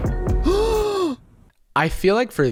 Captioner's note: gasps